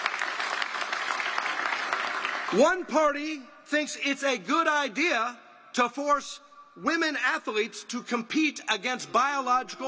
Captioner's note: applause